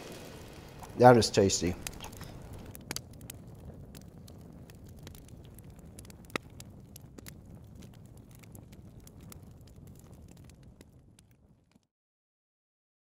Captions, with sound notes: that is tasty. (fire crackling)